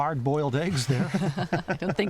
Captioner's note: laughter